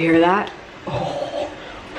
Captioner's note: snickers